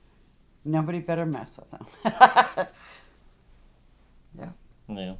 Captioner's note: laughing